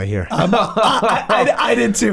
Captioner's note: laughs